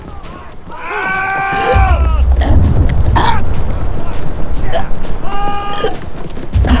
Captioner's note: Adelaide gasps, trying to catch her breath